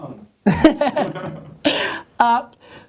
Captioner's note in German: Lacht